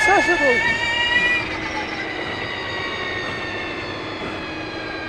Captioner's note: engine revving